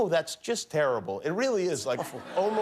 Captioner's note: laughter